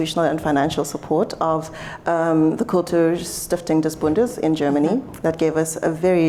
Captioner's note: german